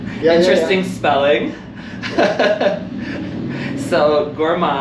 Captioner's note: giggles